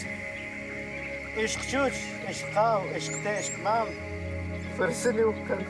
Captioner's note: Spanish spoken audio